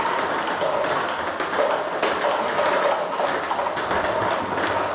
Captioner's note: ball ping pong hitting continues